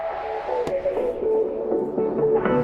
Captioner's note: soft thud